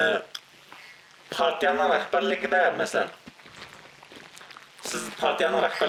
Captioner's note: speaks in foreign language